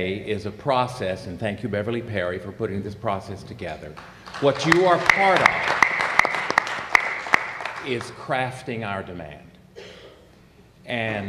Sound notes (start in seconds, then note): 3.9 applause